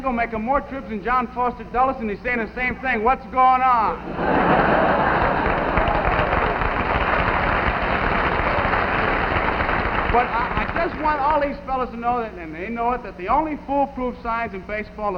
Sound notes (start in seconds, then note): 4.0 audience laughing; 7.3 audience clapping